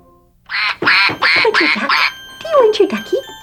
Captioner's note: duck quacking